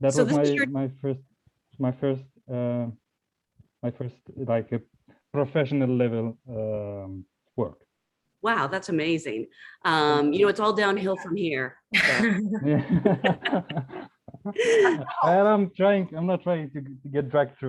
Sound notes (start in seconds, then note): 12.0 group laughs